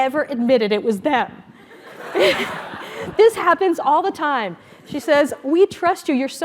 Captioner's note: laugh